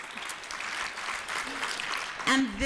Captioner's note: applause